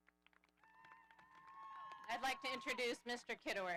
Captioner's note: audience applauding